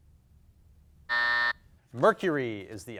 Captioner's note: timer buzzes